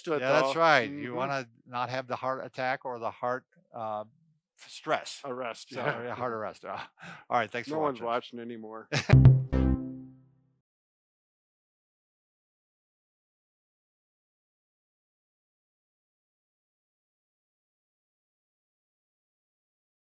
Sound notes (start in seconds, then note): 9.1 light synthesizer; 9.1 laughing